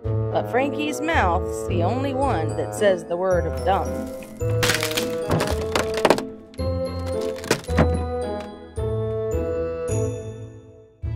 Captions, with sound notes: But Frankie’s mouth’s the only one that says the word dumb [wood creaking] [wood splintering]